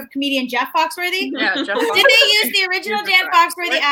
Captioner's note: laughing